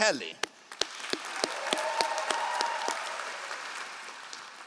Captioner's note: all applauding